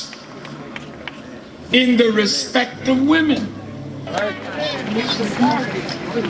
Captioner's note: applause